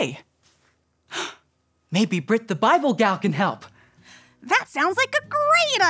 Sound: gasps

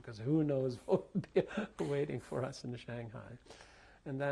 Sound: laughs

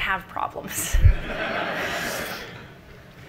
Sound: audience laughing

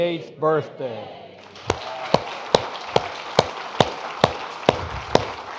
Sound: audience applauding

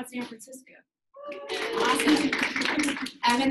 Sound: audience clapping and cheering

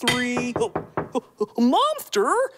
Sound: knocking

